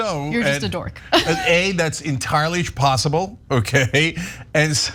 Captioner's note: laugh